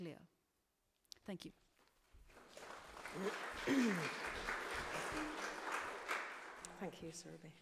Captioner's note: applause